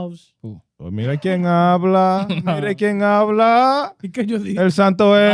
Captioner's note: speaking In Foreign Language